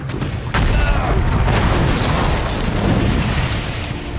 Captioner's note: explosions